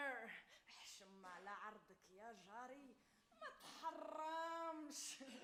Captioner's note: woman speaks Arabic